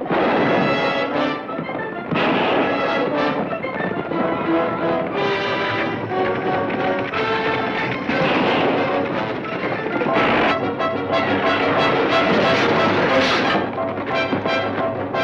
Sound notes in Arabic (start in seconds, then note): 0.1 اطلاق نار; 8.6 اطلاق نار; 12.4 عربة تهتز